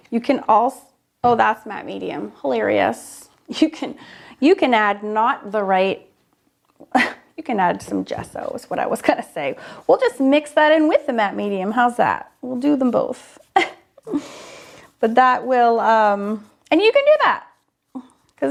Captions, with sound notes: you can, oh, that's matte medium. Hilarious. You can add not the right, you can add some gesso, is what I was gonna say. We'll just mix that in with the matte medium, how's that? We'll do them both. (laughs) But that will, and you can do that.